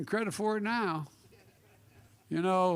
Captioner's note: laughter